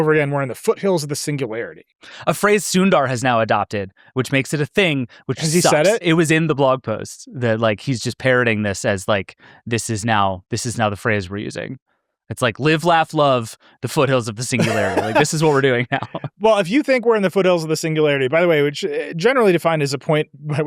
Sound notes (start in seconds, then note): 14.5 laughs